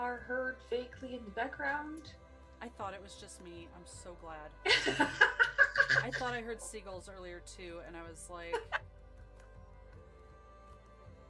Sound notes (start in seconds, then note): 4.6 laughter